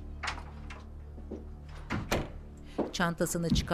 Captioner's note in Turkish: Kapı kapanma sesi